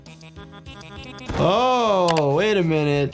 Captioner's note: body thudding